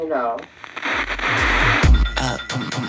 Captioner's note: static crackling; dynamic music